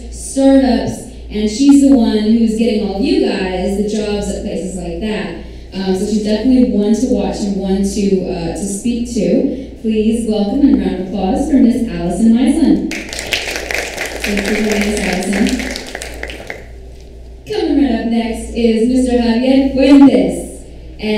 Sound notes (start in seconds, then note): 12.9 audience applauds